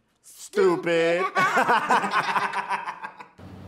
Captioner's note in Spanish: riendo